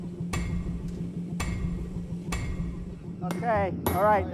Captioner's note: clanging